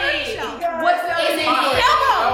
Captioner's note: guests chatter